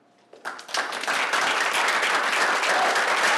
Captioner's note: applause